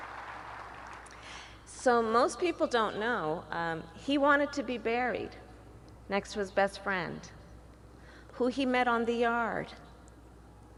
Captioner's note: applause